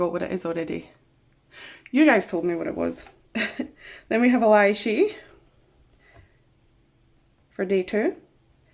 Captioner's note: short laugh